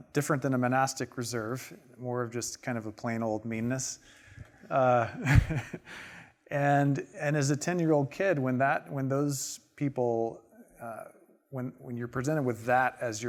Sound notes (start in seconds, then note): 4.9 chuckling